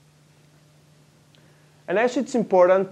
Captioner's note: pause